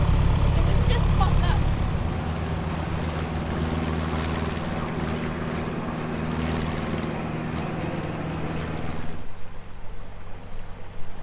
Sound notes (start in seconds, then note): 3.4 engines loud and fast; 9.5 calmer engine